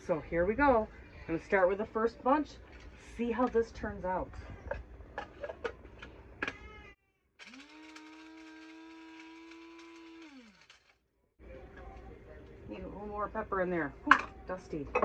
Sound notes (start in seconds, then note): 5.0 buzz of the spice grinder